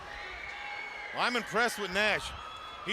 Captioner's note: crowd chatter